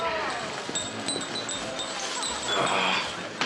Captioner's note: chimes tinkering